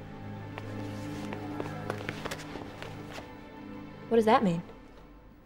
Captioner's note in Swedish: mjuka fotsteg